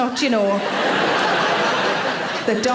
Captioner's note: audience laughing